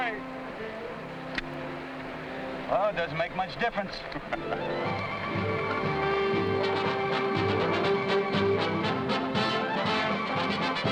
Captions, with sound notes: Which way? - Oh it doesn't make much difference. (men laughing) (upbeat music)